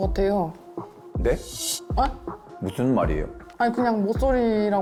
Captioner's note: voice demanding clarification